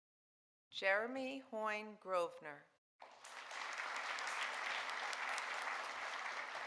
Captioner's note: audience applauding